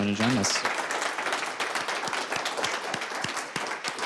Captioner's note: audience applauds